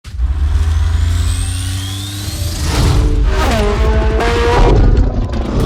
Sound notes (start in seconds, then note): 0.0 engine roaring; 3.5 chopper blades whirling